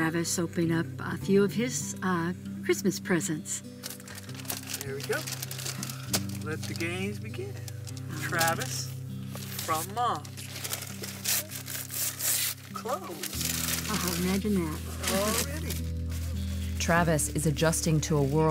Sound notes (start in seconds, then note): 9.3 paper tearing